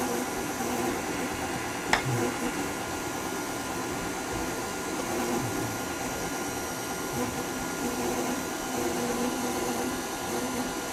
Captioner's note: mixer sounds